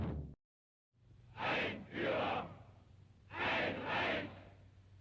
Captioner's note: audience chanting